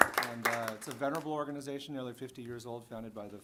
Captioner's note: applause